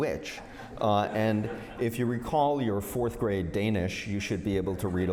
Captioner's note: laughter